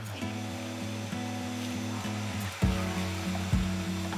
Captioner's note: vacuum cleaner hums; gentle guitar music